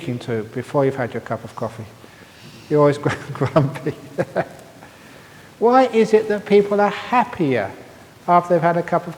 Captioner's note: laughs